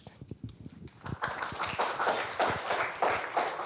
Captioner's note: clapping